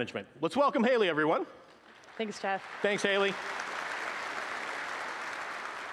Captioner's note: applause